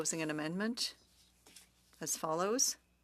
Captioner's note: speaking french